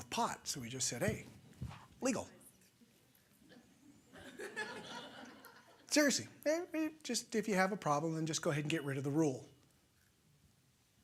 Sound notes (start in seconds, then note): 3.4 laughter